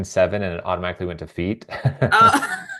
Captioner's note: laughing